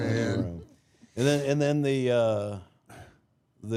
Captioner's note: laughs